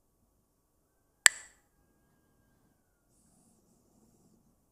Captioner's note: clacks the sticks